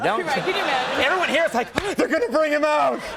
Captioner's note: people laugh